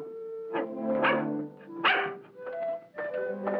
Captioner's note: dog barking